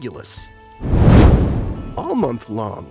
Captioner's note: meteor swishes